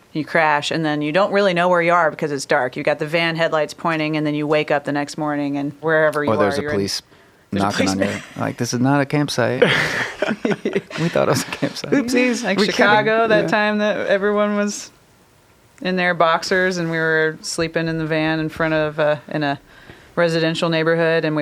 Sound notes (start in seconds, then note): 9.4 all chuckle